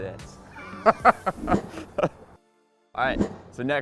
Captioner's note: laughing